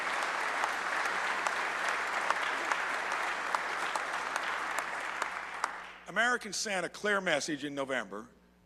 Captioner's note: applause